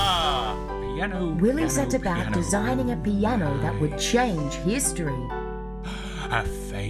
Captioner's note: willy mutters about pianos